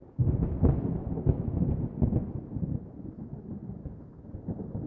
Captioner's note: thunder